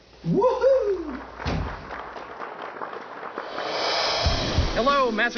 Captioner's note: recorded audience applause